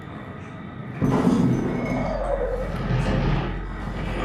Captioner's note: ominous alien noise